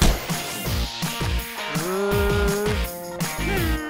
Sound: grunting

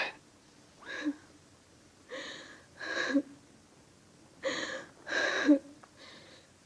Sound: sobs; crying

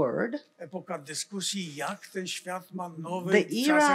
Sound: foreign language

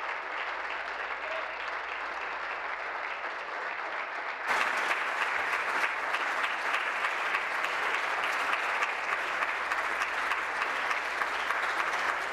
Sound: applause

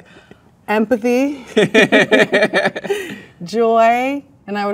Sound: both laugh

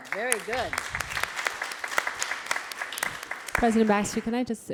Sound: applause

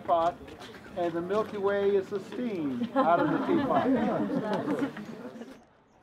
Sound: laughter

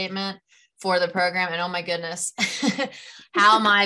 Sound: laughs

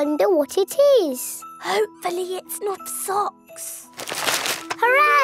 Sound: whispering

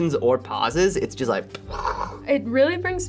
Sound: mimics explosion

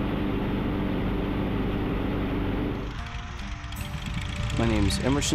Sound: airplane engine rumbling

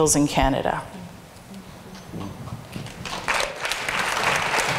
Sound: applauds

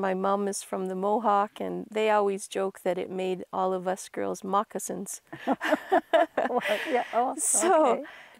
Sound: laughs

